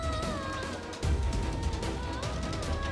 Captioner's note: emotive vocalisation